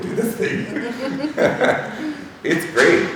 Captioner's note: laughing